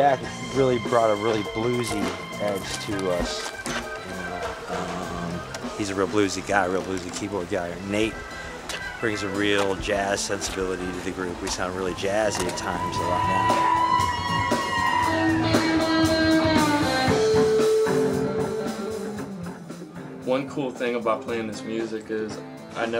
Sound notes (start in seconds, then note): 13.9 crowd cheering